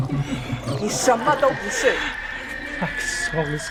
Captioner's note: Mandarin language